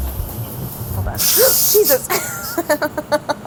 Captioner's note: gasping; laughing